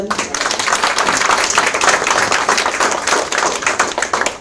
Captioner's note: audience applauds